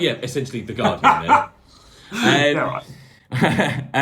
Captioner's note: laughing; laughing